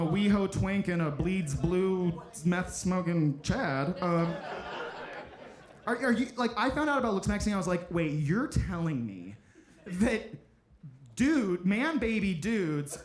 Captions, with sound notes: from a We-Ho twink, and a bleeds blue, meth-smoking Chad. (audience laughing) I found out about looksmaxxing, I was like, "Wait, you're telling me that man-baby dudes